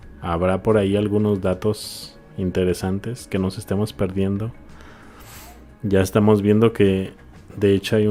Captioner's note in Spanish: resoplido